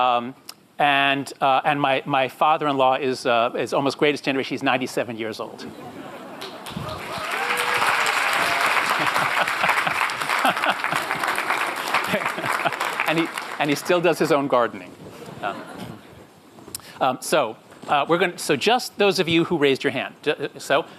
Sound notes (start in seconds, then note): 6.0 applause; 14.8 light laughter